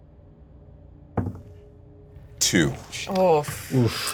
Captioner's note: die thud